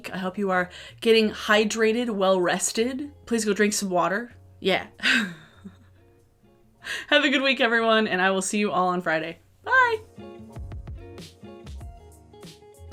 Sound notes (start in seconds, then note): 5.1 chuckles; 10.3 gentle music